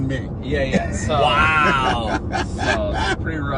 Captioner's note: laughing